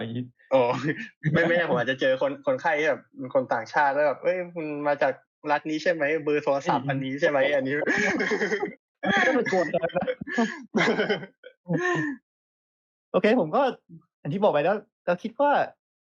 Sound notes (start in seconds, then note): 6.6 laughs